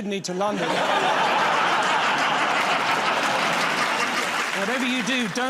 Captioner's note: laughter